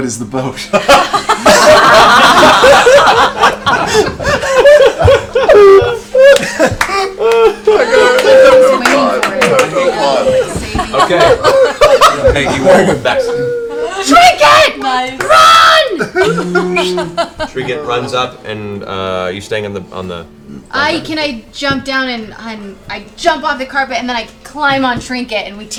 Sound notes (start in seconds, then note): 0.2 all laugh; 16.0 bear moan